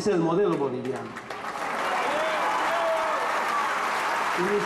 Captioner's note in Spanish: aplausos